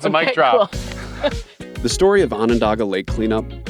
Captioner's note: laughing